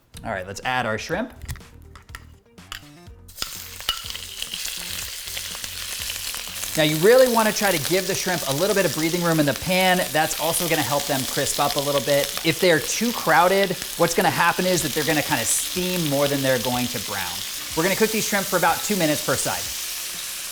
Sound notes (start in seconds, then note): 2.0 upbeat music; 4.5 loud sizzling